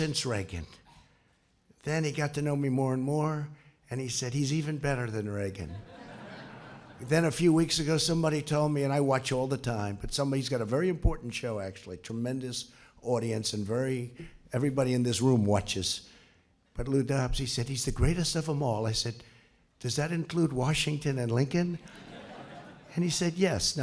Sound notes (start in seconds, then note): 5.6 laughter; 21.8 laughter